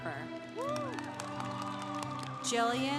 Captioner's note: congregation applauding